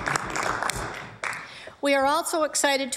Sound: applause

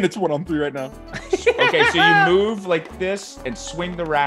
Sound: laugh

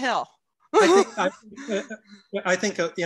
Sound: laughs

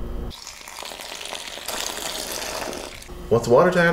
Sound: water pouring

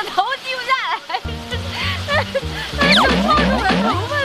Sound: hahaha

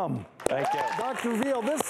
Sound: audience clapping

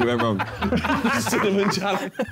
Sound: men laughing

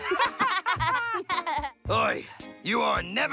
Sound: both laughing

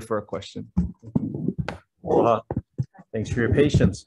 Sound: floor thudding

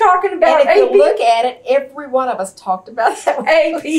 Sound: laughter

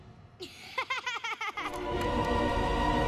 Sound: laughing

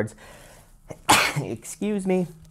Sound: sneezes

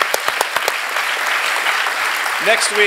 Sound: applause

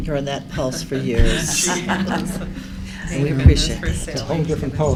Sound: laughter

